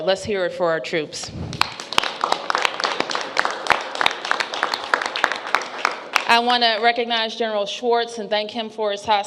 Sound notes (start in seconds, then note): 1.5 applause